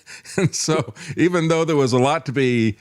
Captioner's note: laughing